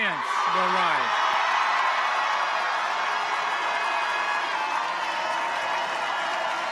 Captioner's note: people cheer; audience applauds